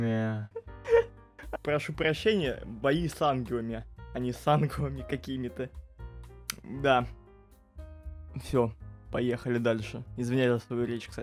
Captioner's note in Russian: Смех